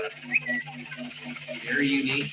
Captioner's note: Twitter notification